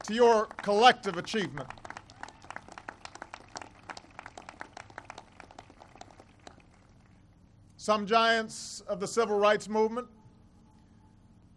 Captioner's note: applause